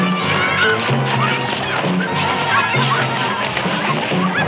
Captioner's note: children clamoring